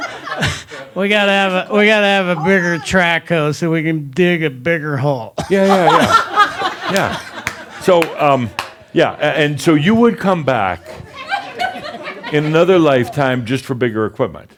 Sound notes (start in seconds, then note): 0.0 still laughing; 5.4 laughter